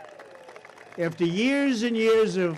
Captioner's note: applause